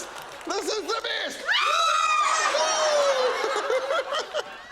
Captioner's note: laughs; shrieks; laughs